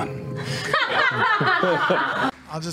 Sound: laughing

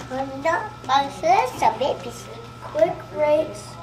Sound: toddler babbles

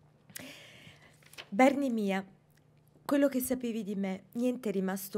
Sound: speaking italian

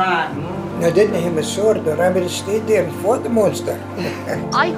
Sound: laughter

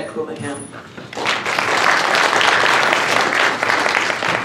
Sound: applause

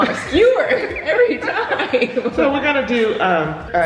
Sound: laughs

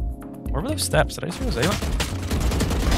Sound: guns firing

